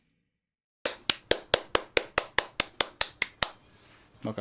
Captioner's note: applauds